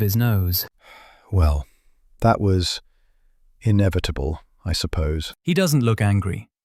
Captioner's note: sigh